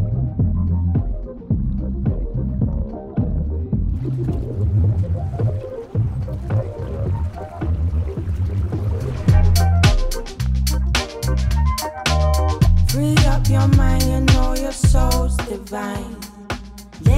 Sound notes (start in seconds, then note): 3.7 bubbles sloshing; 9.2 upbeat music